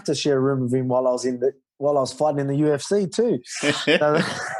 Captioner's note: laughter